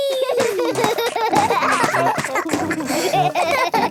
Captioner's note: both laugh